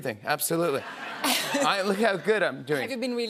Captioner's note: laughter